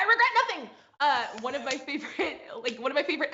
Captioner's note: laughs